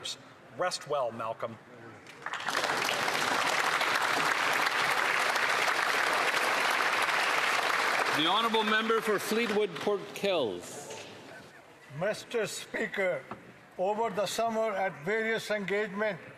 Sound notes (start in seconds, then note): 6.9 applause